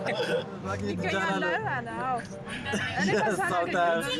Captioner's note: speaking in foreign